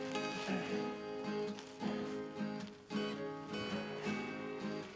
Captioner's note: Isaac groaning